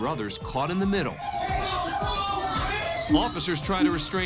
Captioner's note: yelling